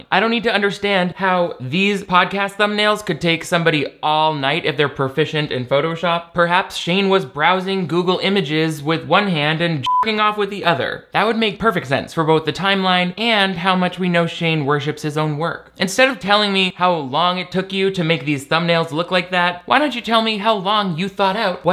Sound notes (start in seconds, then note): 9.8 beep